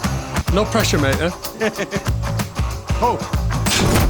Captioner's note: laughter